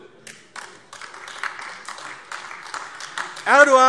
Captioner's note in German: Beifall AfD